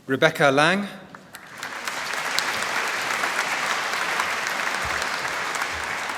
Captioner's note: applause